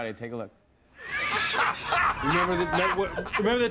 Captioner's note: laughter